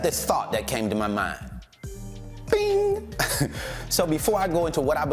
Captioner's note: chuckles